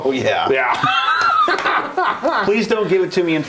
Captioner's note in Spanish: risas